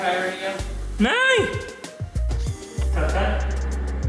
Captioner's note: exclaims loudly